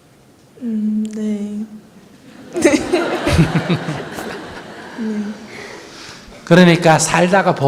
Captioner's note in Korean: 질문자와 청중, 스님 웃음